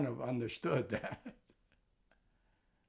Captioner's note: laughing